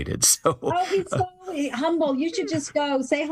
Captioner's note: laugh